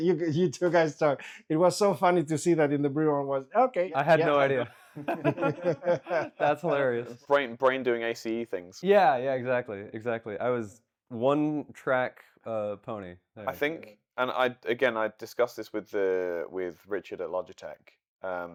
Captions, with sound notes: You two guys talk. It was so funny to see that in the B-roll, and was okay. I had no idea. (Laughing) That's hilarious. Brain doing ACE things. Yeah, yeah, exactly, exactly. I was one track a pony. I think, and again, I discussed this with Richard at Logitech.